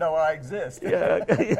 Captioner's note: both laugh